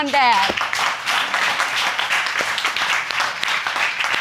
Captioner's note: audience applauding